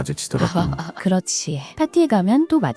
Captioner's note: laughs